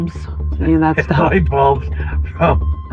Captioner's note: laughing